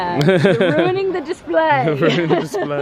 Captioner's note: laughs